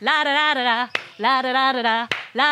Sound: claps

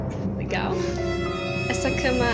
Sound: sarcastically

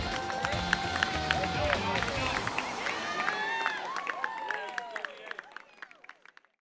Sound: cheering and applause

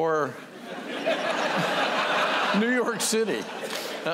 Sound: laughter

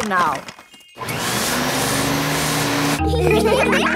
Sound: whirring; all laughing

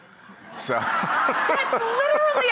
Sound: audience laughing; laughs

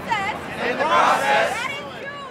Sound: crowd repeats

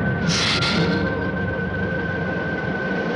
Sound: hissing

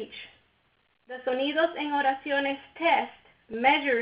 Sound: speaks in foreign language

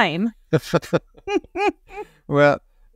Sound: both laughing

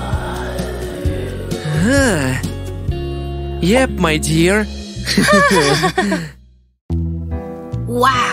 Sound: laugh with relief

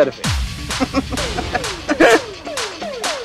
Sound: giggling

